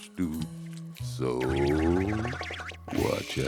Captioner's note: whirl! whirl!